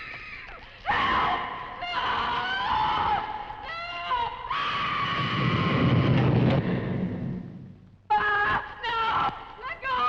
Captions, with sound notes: (Nan screaming) - No! (screams) No, let go of me!